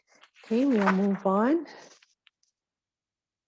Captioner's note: papers rustling